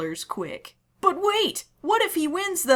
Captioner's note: excited